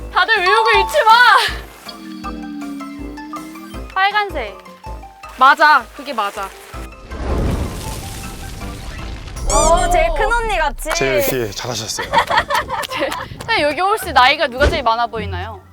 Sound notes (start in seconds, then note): 12.1 annoyed